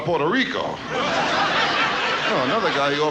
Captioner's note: audience laughs